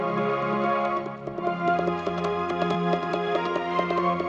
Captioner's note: hooves clopping